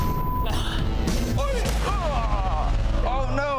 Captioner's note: beep; men grunting